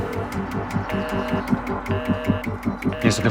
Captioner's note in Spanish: Tono de ocupado